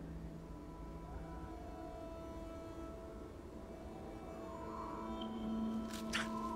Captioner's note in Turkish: Rüzgâr esiyor